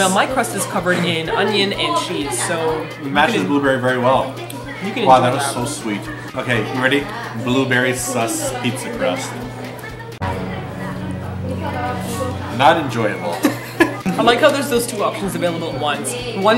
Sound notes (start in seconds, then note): 10.2 dramatic music; 13.4 laughs